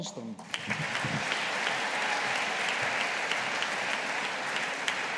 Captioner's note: audience applauding